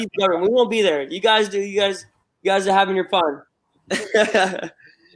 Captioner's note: laughter